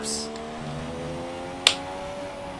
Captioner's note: single clap